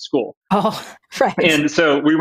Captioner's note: laughs